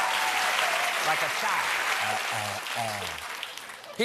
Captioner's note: applause